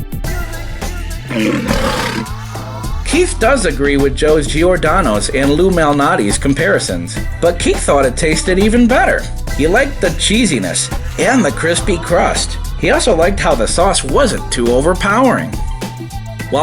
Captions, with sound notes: (soft beat music) (Lion's Roar) Keith does agree with Joe's Giordano's and Lou Malnati's comparisons, but Keith thought it tasted even better. He liked the cheesiness and the crispy crust. He also liked how the sauce wasn't too overpowering.